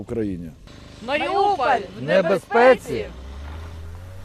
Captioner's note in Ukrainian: хор голосів